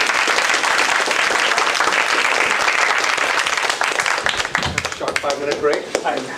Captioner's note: applause